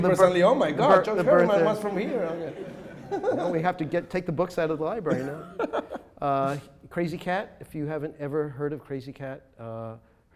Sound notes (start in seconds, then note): 3.1 audience laughs; 5.0 laughing